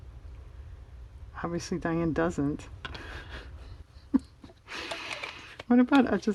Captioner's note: laughs